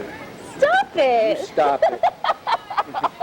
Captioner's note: laughs